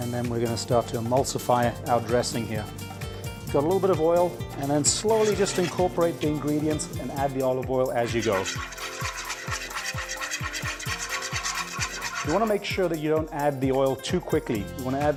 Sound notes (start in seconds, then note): 8.0 whisking